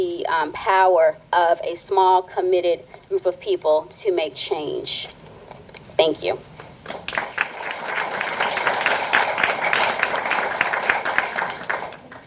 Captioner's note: applause